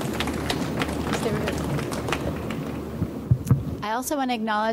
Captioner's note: speaks faintly